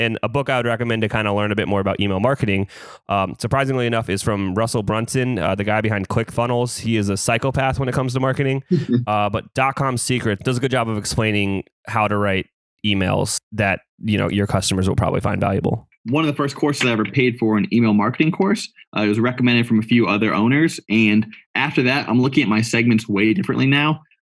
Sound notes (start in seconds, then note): 8.7 laughs